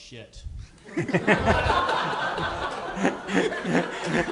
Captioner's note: everyone laughing